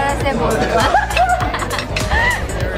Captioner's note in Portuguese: Risadas